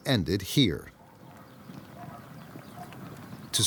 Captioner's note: fire crackling